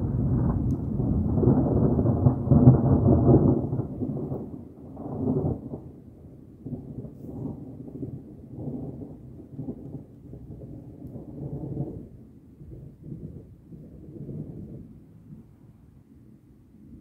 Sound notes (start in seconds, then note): 0.0 louder thunder crackles; 0.2 thunder gets deeper; 6.1 thunder quiets down